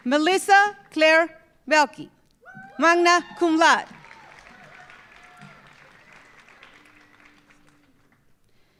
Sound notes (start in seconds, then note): 3.8 audience applauding